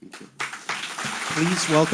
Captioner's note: audience applauding